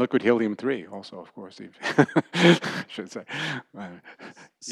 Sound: laughter

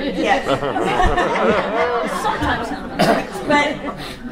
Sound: audience laughs

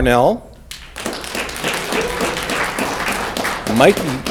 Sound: audience clapping

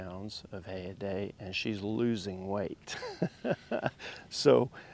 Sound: chuckles

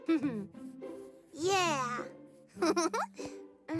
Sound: chuckles

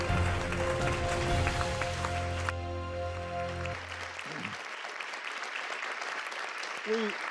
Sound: applause

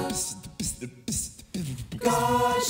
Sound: beatboxing

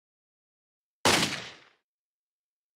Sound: bang

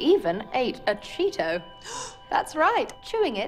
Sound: gasp

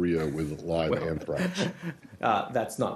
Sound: laughter

